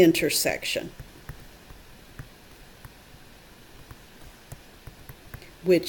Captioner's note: tapping on calculator